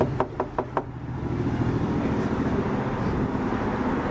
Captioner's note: knocking on door